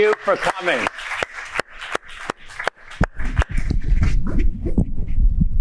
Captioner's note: applause